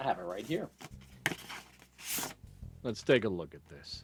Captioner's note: paper rustling